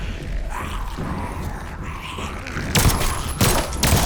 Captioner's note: snarling; gunshots